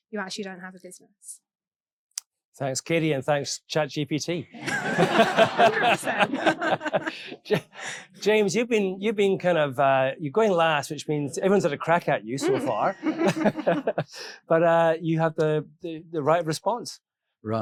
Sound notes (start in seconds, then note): 4.5 all laughing; 14.0 laughs